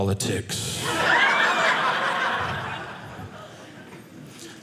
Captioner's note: audience laughing